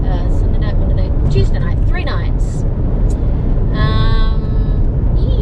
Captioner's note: none